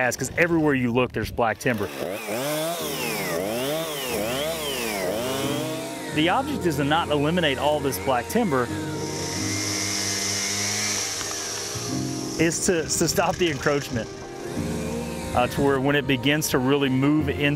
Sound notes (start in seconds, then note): 2.3 chainsaw whirs